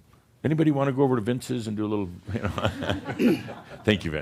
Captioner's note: some chuckles